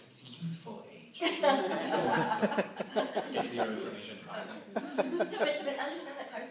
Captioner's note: laughter